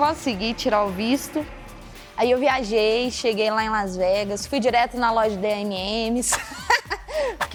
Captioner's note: laughs